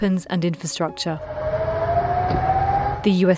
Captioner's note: alarms wailing